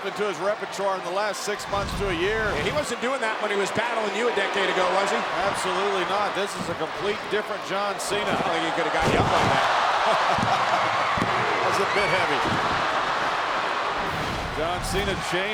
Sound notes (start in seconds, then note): 1.6 graphics whooshing; 8.2 laughs; 9.0 body thudding